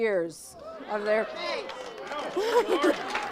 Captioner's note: audience chatters